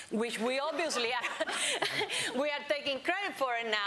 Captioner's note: laughter; laughs